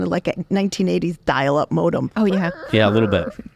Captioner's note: makes squeaking noises